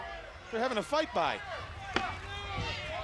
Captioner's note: crowd chatter